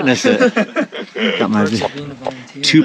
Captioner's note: all laughing